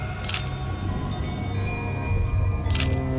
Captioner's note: camera shutter clicking; dramatic music